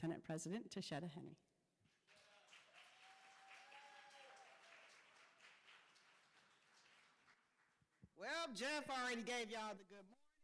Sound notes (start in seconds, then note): 2.0 cheering